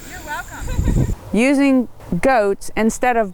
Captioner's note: woman giggles